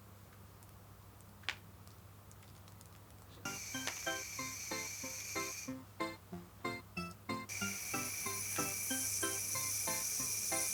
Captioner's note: air sound